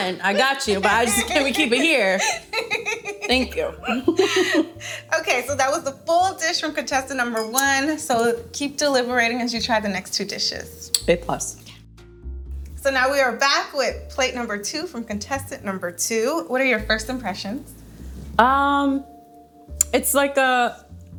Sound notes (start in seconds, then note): 0.3 laughing